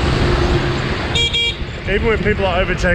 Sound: horn beeps

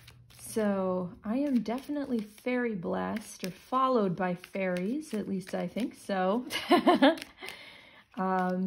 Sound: laughter

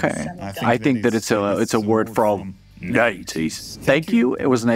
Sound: in a gruff voice

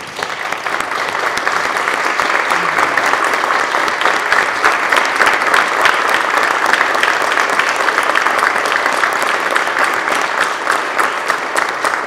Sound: applause

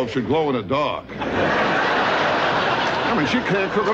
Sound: audience laughing

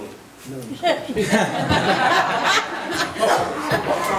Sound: laughing

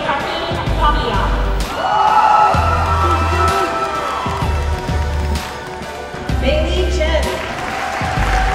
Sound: applause

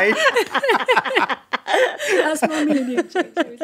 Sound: all laughing

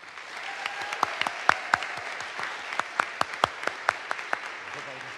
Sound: audience applauds; audience cheers

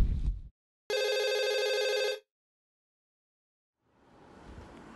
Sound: phone ringing

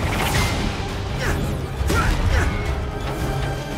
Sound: Cole grunting

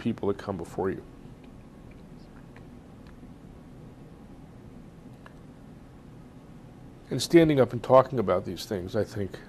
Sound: pauses for 6 seconds

